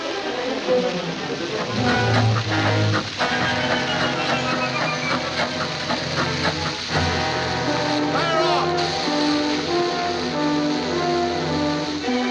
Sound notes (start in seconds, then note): 1.7 frenetic music; 5.8 oil splattering